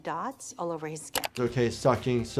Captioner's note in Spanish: clic del mouse